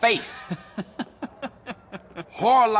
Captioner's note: laughing